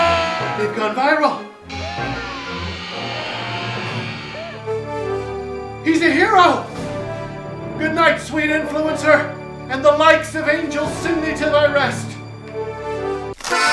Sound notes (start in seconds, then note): 0.0 shouting; 1.6 screaming and shrieking